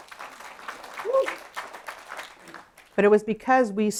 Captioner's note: applause